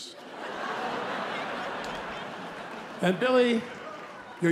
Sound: laughter

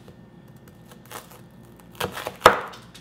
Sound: crunching

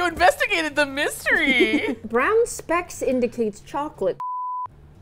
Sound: laughs

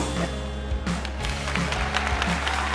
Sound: cheering

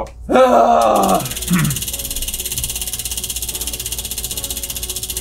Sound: wheel spinning

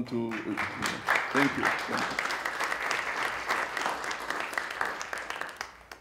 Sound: audience clapping

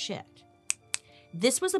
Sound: snapping

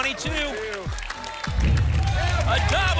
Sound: rumbling sounds

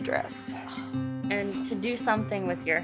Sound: Amy groans

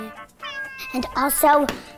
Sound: cat meows

